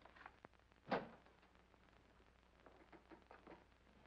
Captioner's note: door opens